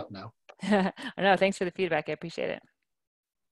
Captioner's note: laughing